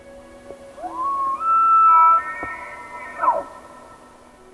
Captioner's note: elk bugling in distance